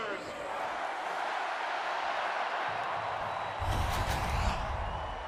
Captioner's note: crowd roars